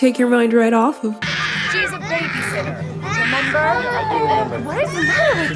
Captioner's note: baby screaming